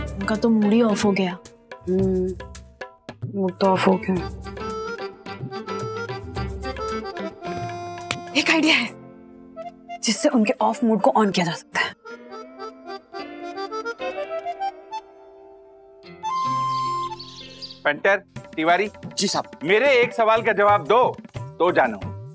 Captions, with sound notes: His mood was ruined. Hmm. His mood was ruined. I have an idea. Which can uplift his mood. [birds chirping] - Mr. Tiwari. - Yes, sir. I will be impressed if you can answer my question.